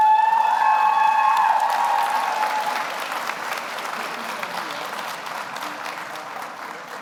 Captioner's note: audience cheers; audience applauds